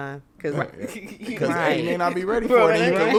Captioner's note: podcaster chuckling